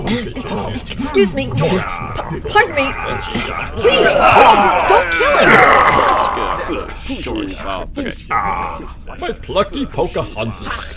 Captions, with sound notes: Excuse me...p-pardon me. [Klingon muttering] Please! Please! Don't kill him! [Klingon angry, confused muttering] Ah! My plucky Pocahontas!